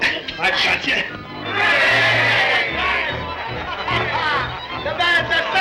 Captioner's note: men cheer